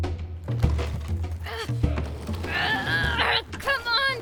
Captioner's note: Mera grunts as she digs through boxes